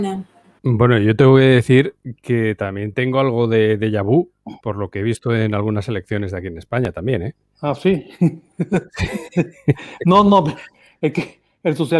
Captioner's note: laughs